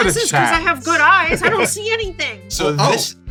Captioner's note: chuckles